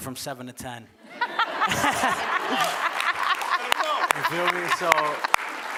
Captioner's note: audience laughing